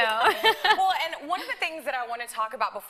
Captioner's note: laughs